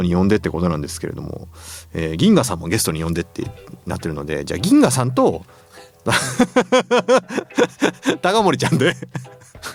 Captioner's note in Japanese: 笑い